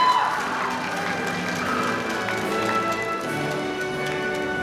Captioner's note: audience applauding